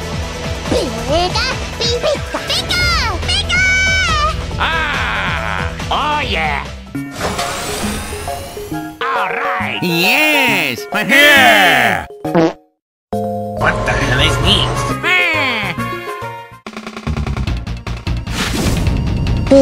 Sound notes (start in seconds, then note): 11.3 wahahoo and Wahahee noises; 12.3 fart